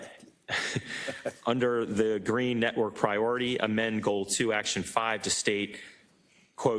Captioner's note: laugh